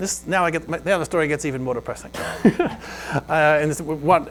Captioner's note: laughs